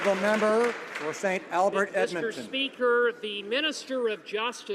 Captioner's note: some Applause